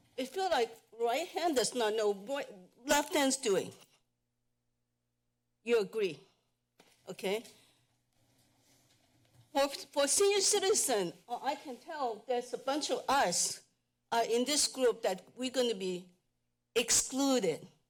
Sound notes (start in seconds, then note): 3.8 pause; 7.5 pause